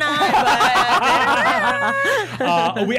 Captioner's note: all laughing